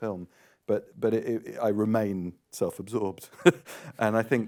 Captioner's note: laughs